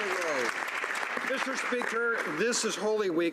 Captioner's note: speaking French